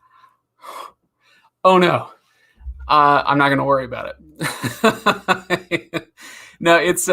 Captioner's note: laughs